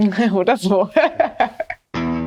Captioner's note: they laugh